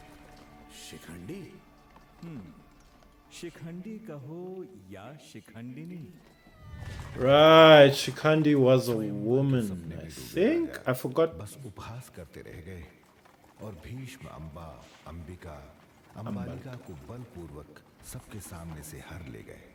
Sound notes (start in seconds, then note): 6.4 horse neighing; 7.0 hooves pounding